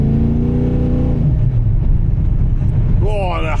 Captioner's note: engine revving